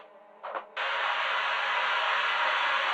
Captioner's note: flame hissing